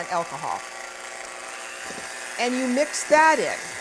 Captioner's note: whirring